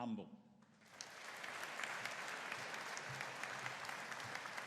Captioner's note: audience applauding